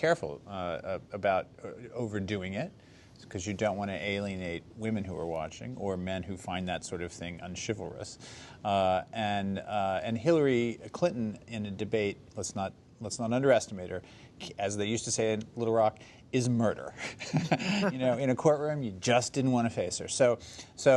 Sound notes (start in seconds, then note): 17.1 laughs